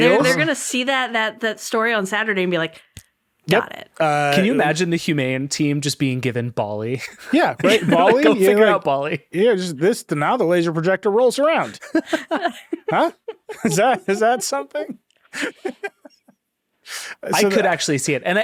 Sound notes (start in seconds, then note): 11.6 chuckling; 15.3 laughing